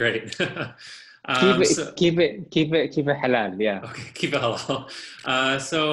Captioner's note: laughter